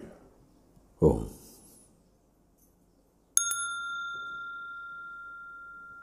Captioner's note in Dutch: rinkelt bel